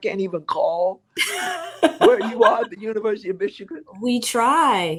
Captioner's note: chuckle